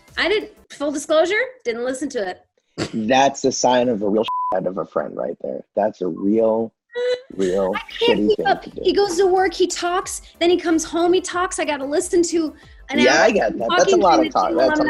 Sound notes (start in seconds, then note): 4.2 beep